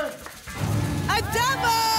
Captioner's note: booms